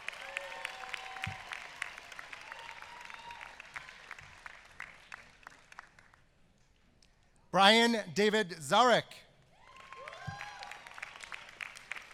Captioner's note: applause